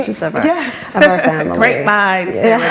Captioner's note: laughs